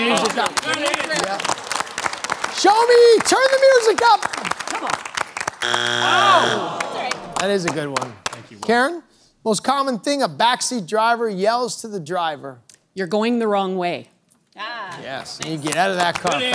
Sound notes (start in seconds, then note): 0.0 cheering/applause; 5.6 buzzer sounds; 15.0 scattered applause